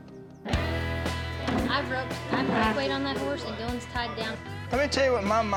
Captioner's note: all chatter